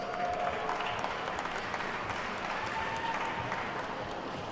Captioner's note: attendees clapping